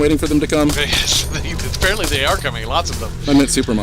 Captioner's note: laughing